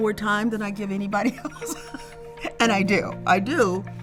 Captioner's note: chuckles